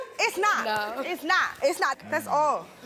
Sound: laughs

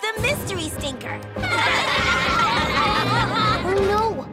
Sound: laughing

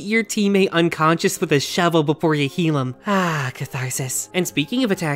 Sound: sigh

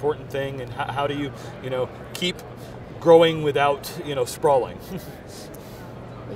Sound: laughing

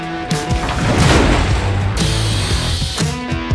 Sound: upbeat rock music; wall thudding; grinder whirring; upbeat rock music

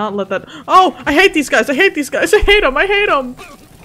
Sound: gasps

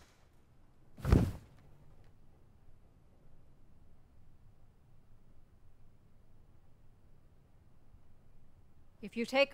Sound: silence

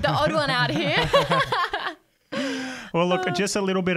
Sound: laugh

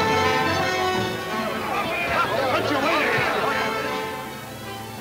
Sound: dramatic orchestra music; men yelling simultaneously

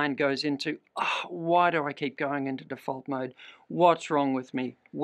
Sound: sighs

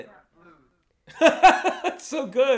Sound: laughs

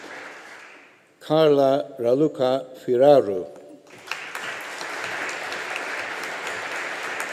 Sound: audience applauding

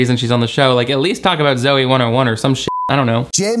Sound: beep

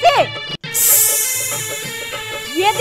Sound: rattling

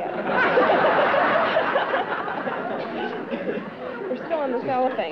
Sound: laughter

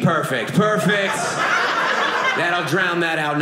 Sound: audience laughing

